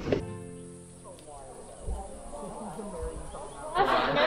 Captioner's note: people chattering